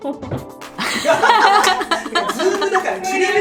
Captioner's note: laugh